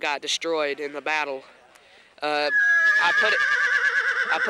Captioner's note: horse neighs